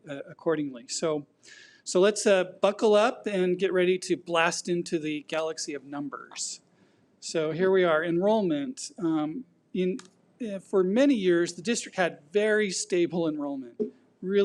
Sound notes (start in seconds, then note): none